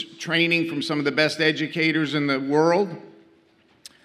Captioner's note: none